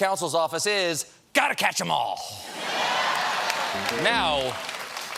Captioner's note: applause